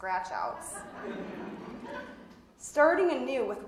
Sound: audience laughing

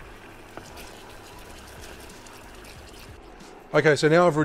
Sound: liquid sloshing

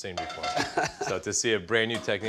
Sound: laughs

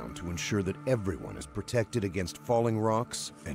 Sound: voiceover

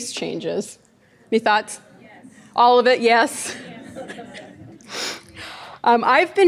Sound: audience laughing

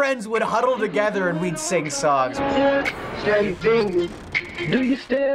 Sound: autotuned

